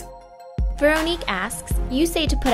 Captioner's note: voiceover